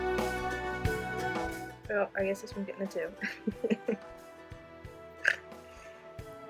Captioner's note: laughs